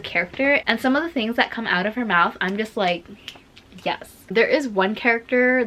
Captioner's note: snaps